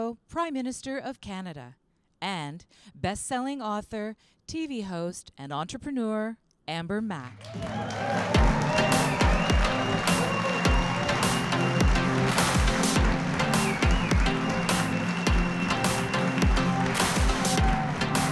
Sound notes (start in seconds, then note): 7.4 audience applauding; 8.3 calm electronic music